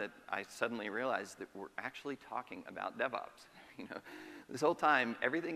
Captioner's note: chuckles